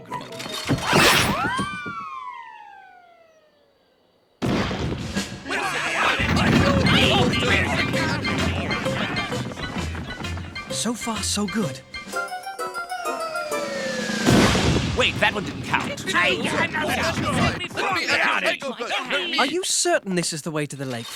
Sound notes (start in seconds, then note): 5.7 thudding; 7.1 squabbling; 15.4 thudding; 18.6 squabbling